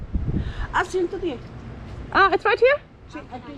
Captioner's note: woman speaking foreign language